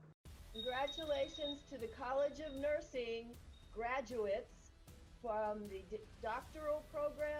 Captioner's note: ringing bell